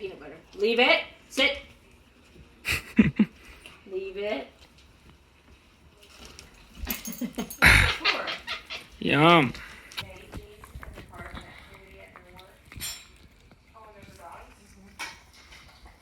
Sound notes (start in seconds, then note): 2.6 laughing; 7.2 laughing